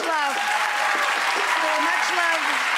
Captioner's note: audience applause